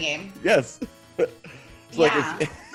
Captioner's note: laugh